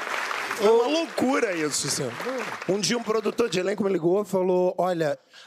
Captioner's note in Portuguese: aplausos